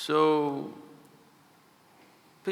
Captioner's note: none